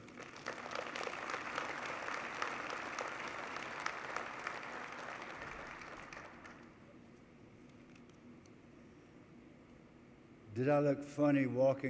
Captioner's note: applause